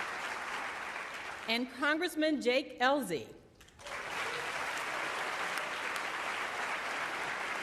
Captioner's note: applause